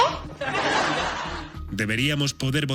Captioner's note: laughter